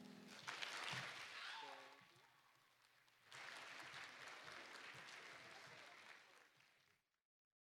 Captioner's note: applause